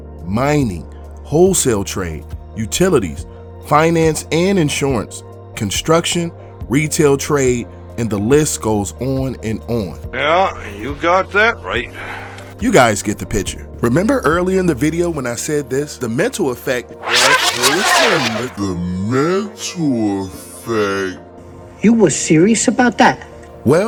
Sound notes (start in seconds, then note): 17.0 video tape squealing